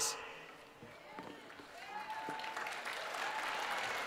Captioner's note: cheering and Applause